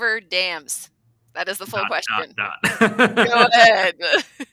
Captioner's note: laughing